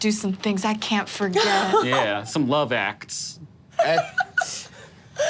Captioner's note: laughing